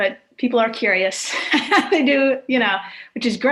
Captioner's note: laughing